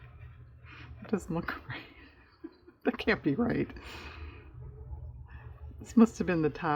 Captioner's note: laughs